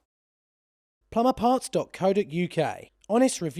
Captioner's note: voiceover